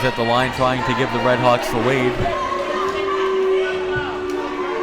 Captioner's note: crowd booing